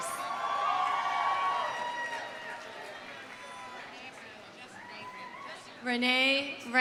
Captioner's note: audience cheering; audience applauding